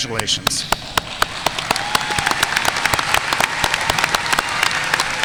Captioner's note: audience applauding